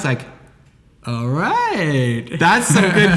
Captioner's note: laughs